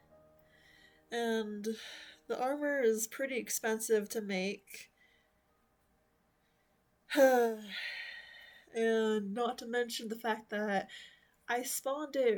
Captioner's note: sigh